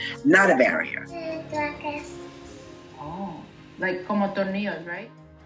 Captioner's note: speaking Spanish